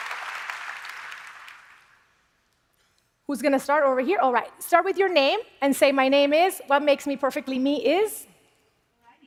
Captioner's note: applause